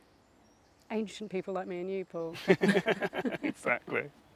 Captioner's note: both laugh